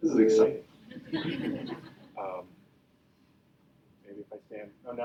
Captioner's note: audience laughing